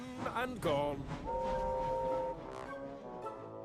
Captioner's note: toot!